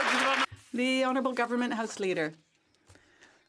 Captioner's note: some Applause